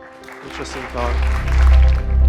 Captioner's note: applause